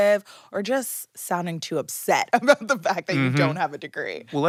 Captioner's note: chuckling